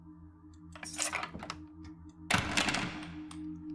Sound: keys Jangle, Locks Turn, Door Clangs

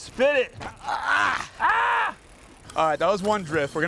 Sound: grunts in frustration

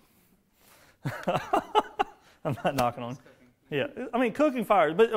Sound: laughing

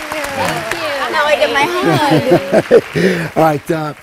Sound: applause

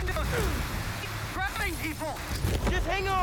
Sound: static

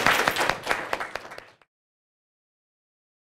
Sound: audience clapping

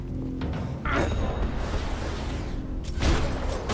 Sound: grunts

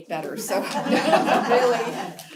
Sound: laugh

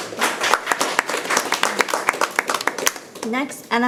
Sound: people clapping

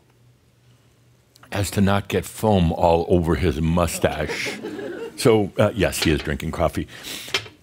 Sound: a few chuckles

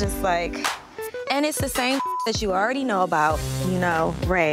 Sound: beep

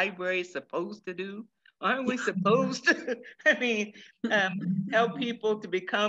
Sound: laughs

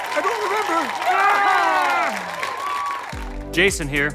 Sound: cheering

